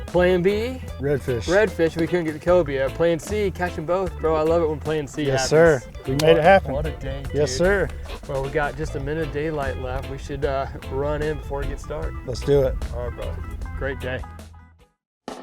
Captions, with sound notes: Plan B. - Redfish. - Redfish. We couldn't get the cobia. Plan C. Catching both, bro. I love it when Plan C happens. - Yes sir. (hands slapping) We made it happen. - What a day, dude. - Yes, sir. - Well, we got just a minute of daylight left. We should run in before it gets dark. - Let's do it. - All right, bro. Great day.